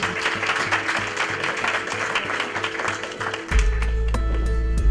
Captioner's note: clapping